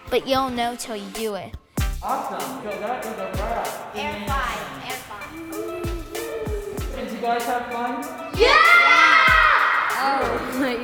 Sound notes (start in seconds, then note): 3.9 kids talking